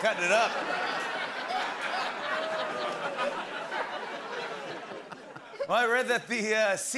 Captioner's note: laughter